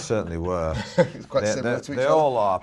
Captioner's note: laughing